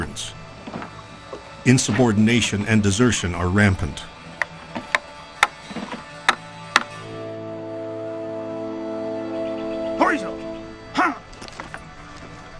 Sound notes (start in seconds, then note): 4.0 mallet thudding; 7.2 dramatic music